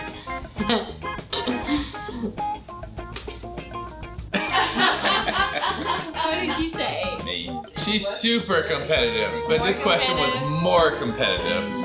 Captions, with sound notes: (Laughter) She's super competitive but this question was "more competitive."